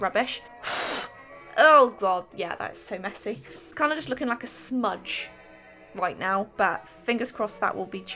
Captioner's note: blows